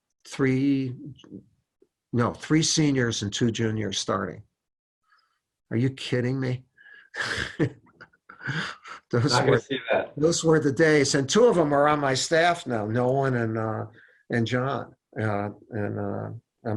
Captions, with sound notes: three, no, three seniors and two juniors starting, are you kidding me? (laughs) Those were the days, and two of them are on my staff now. Nolan and Jon.